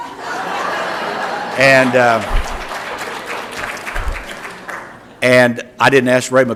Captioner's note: laughter and Applause